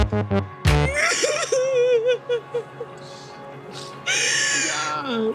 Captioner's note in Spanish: Sollozos